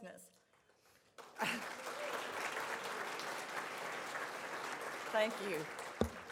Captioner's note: crowd applauds